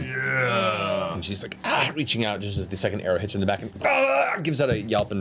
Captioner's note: grunts; groans